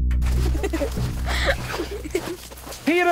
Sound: laughing

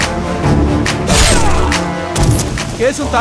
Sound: groans in pain

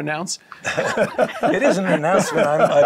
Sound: laughing

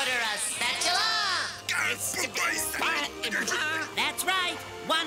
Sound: stuttering

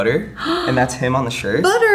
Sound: gasps

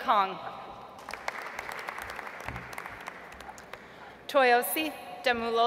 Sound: audience applauds

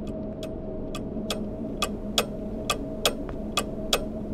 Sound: tick tock

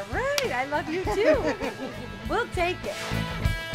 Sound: laughs

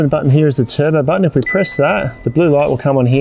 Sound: control panel dings

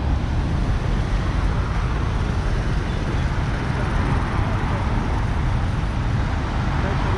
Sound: cars in traffic; crowd chattering

